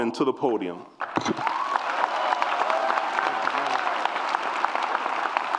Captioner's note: applause and cheers